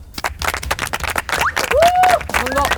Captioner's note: cheering